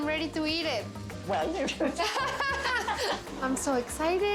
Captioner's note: laughs